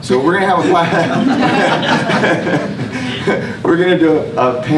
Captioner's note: laughter